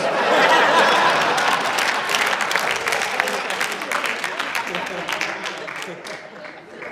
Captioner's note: applause, laughter